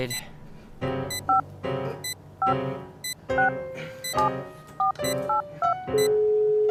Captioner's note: the sound of button-pushing; phone buzzing